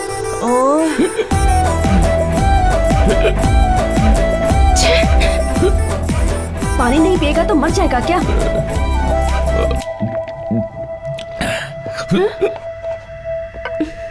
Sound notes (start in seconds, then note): 0.1 hiccups; 9.0 sipping water; 9.3 hiccups